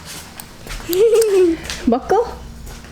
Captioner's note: laughter